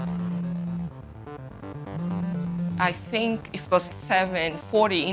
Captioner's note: phone vibrating